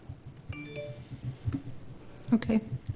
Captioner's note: phone dings